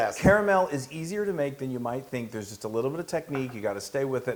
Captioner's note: none